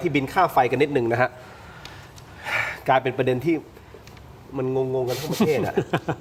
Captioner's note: sigh; laughter